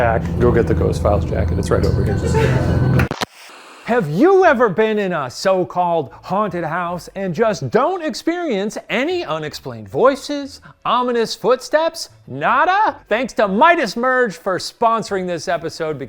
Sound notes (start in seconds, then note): 2.2 suspenseful music; 2.6 television hissing